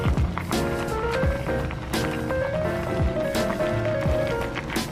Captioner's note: sizzling; upbeat music